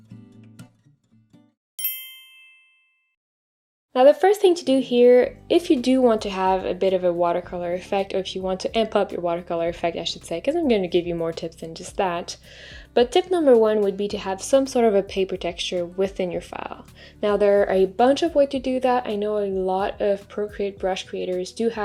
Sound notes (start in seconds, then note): 1.8 bell rings